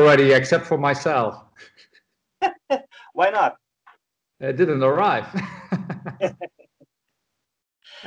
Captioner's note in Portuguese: Laughter; Risos